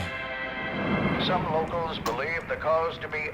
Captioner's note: radio Voice